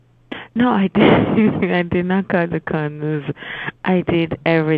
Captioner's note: laughs